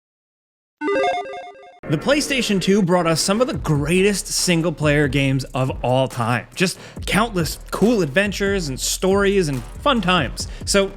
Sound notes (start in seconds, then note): 0.8 electronic chiming